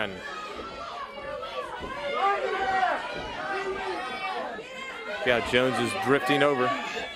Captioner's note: crowd chatter